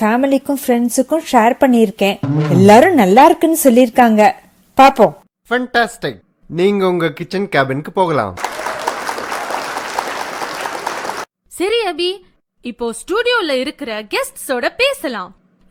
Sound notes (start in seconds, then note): 8.4 crowd clapping